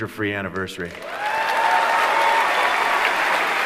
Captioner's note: applause